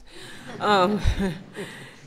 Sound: laughter

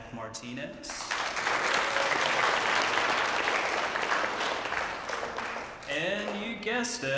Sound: applause

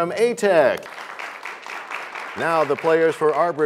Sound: applause

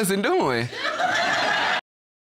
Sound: audience laughs

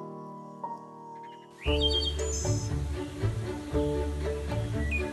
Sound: birds tweeting

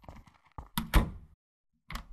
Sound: shuffling steps; door closes; door opens

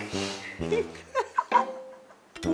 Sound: laughing

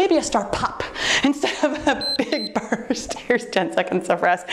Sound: timer beeps

